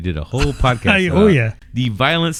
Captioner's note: uh